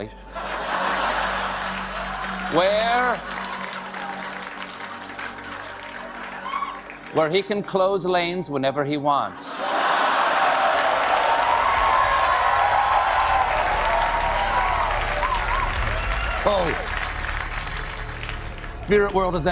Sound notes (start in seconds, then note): 3.6 cheers and applause; 3.6 laughter